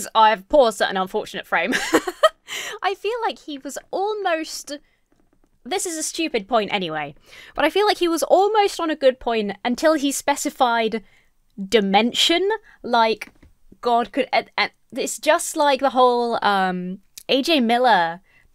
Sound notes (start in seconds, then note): 1.7 laughs